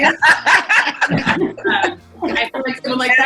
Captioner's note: laughing